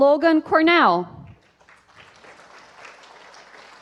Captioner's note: applause